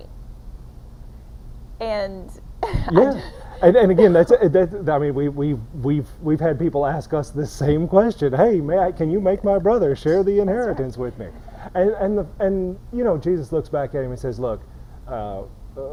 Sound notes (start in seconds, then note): 2.6 chuckling